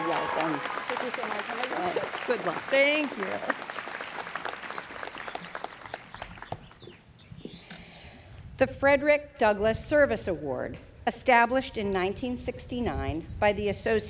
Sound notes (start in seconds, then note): 5.9 students clapping